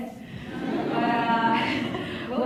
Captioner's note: laughs